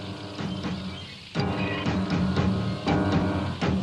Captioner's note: tank rumbling